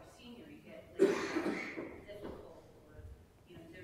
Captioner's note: someone coughing